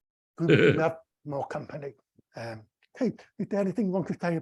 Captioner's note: chuckles